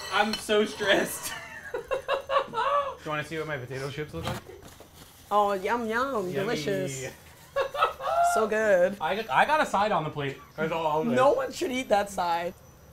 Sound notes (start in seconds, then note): 1.2 laughs; 7.4 laughs